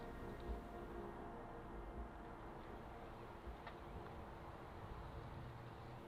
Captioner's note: quiet breeze